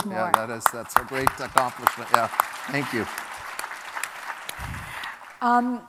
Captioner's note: applause